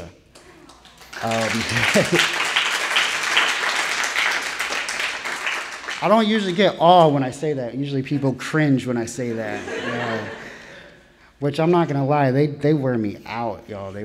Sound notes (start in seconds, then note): 0.3 audience applauding